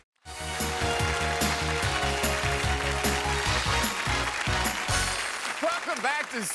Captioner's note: theme music; audience applause